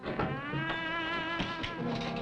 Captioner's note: door opens